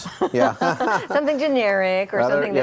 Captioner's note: laughs